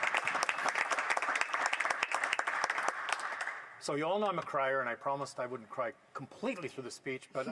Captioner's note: applause